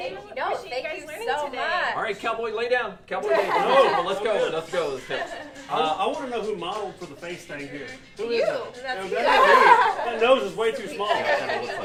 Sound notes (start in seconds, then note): 3.3 laughter; 10.8 laughter